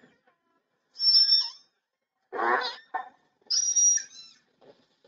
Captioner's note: whale whistles